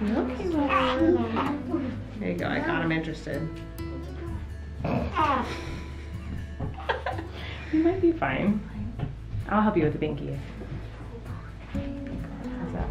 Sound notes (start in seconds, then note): 4.9 mom laughing